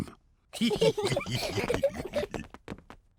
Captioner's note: all giggle